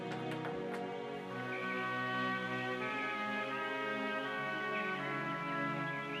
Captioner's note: birds chirping